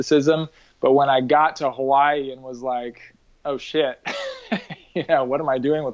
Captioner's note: laughs